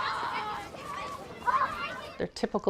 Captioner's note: children playing